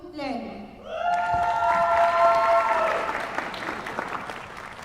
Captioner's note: applause